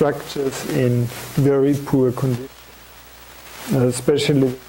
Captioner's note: audio static